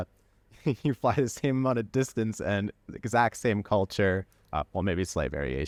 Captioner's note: laughter